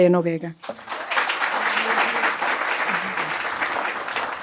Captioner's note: applause